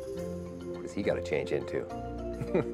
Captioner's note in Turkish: Gülüşmeler